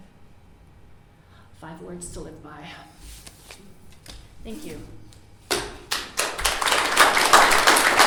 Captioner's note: applause